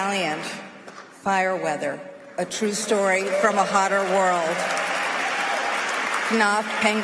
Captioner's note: applause